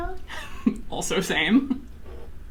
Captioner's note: laughs